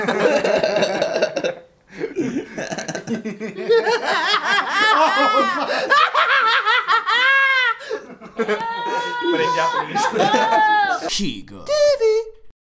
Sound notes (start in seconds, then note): 3.9 creepy laugh